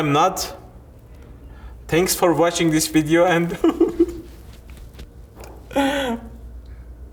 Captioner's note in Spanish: llora